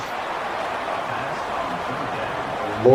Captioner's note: crowd Noises